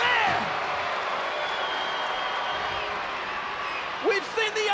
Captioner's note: crowd cheering